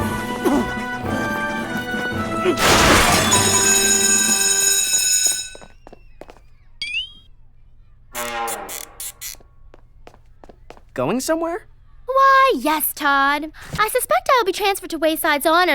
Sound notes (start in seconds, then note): 1.6 school bell rings; 2.5 loud crash